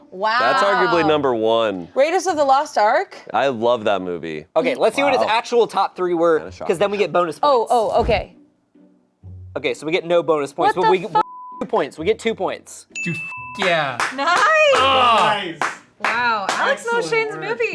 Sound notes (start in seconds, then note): 12.9 beep